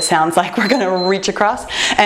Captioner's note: timer beeps